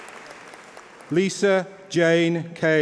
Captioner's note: applause